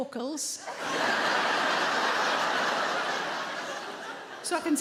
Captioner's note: audience laughing